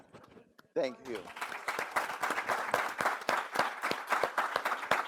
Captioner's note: all applause